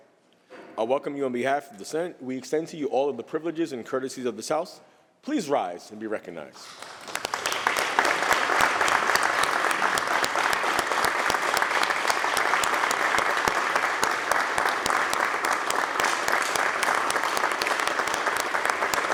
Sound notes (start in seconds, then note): 6.6 applause